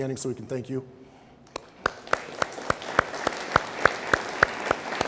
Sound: audience applauding

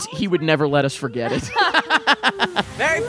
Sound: both laughing

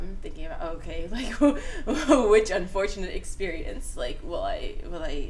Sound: laughs

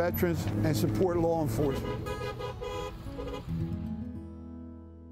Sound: car honks

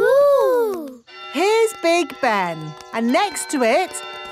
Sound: clock chimes

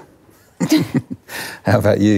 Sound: chuckle

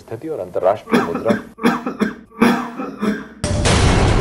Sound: coughs

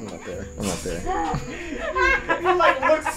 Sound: big sigh and laughing

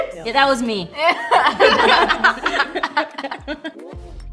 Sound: laughs

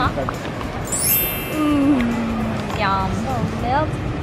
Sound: popping sound; chimes

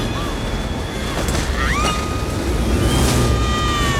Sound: screaming

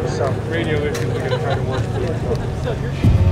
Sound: chattering

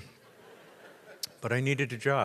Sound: audience laughs

